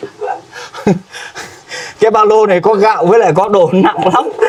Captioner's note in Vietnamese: tiếng cười